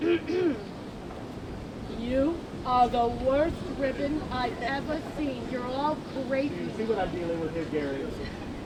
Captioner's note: deeper voice